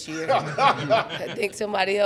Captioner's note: chuckles